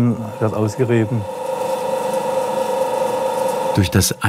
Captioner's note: quiet drilling